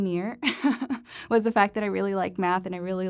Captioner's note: laughter